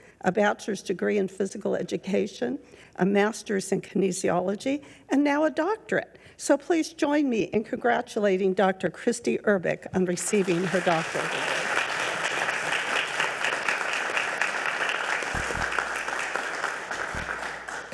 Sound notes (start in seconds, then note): 12.4 members applauding